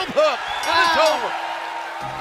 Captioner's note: bell ringing